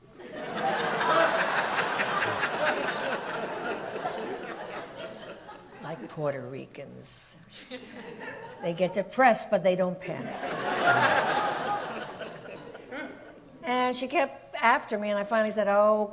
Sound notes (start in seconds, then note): 0.1 audience laughs; 10.2 audience laughs